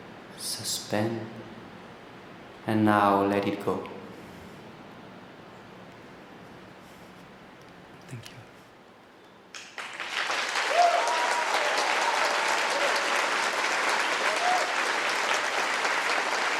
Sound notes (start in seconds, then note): 7.8 quietly; 9.5 applause and cheering